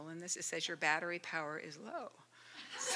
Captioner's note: laughter